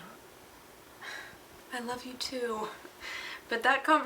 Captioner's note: sighs